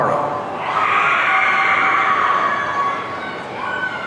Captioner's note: audience cheering